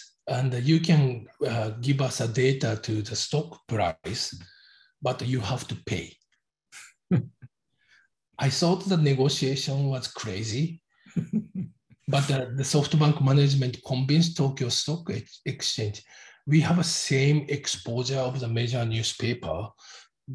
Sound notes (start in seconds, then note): 7.0 chuckles; 11.2 laughs